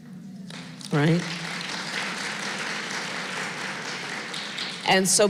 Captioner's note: applause